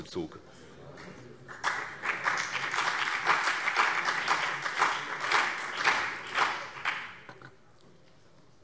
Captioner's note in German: Beifall BÜNDNIS 90/DIE GRÜNEN und CDU